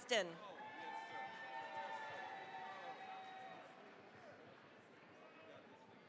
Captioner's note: cheering, applause